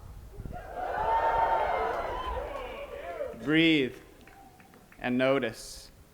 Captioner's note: cheering and applause